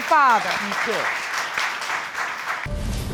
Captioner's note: applause